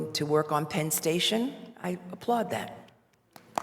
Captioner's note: applause